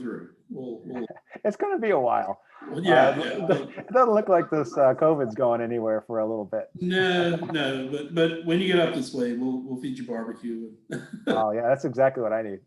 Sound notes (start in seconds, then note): 10.8 laughs